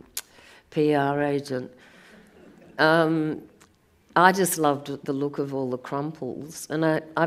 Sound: audience laughs

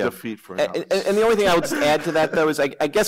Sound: laughter

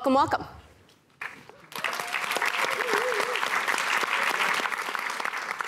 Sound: applause

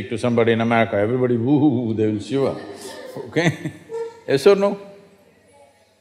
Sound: laugher

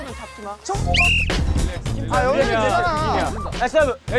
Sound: blows the whistle and the game starts

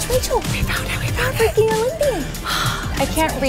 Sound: sighs

